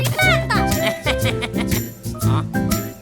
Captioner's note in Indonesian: Tertawa